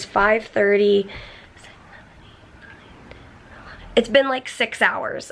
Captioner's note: whispering